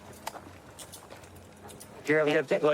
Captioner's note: handcuffs clicking